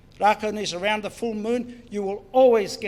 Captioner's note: foreign Language